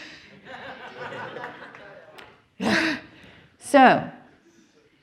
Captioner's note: audience laughs